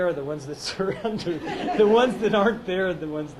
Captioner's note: laughs